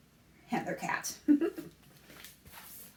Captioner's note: laughs